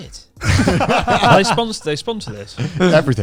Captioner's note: laughing quickly